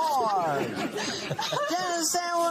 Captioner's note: laughter